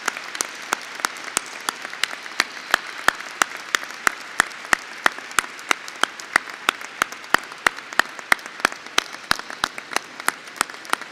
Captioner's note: applause